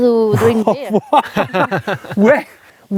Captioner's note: laughing